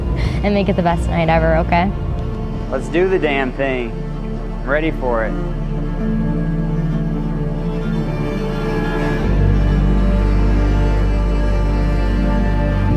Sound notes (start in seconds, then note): none